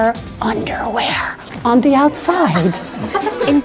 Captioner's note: students laugh